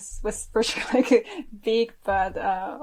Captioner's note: chuckles